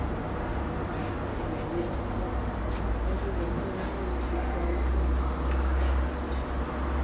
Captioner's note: speaking in Mandarin